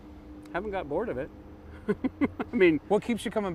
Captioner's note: laughs